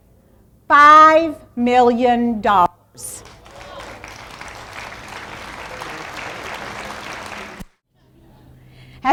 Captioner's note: applause